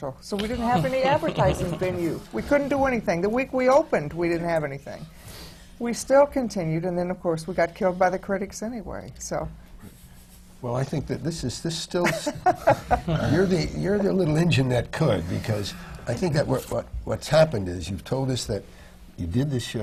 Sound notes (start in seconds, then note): 0.5 laughter; 12.1 laughs